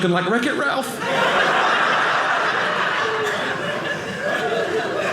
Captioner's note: audience laughing